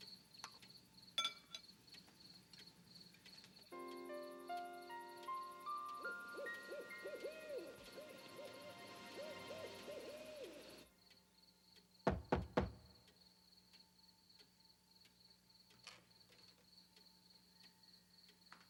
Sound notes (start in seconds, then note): 0.2 crickets chirping; 3.6 gentle music; 5.0 owl hooting; 12.0 someone knocking